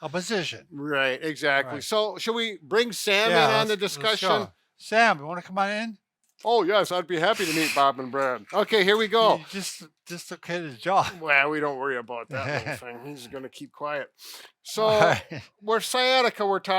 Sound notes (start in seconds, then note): 8.0 chuckles; 14.7 laughing; 14.8 chuckles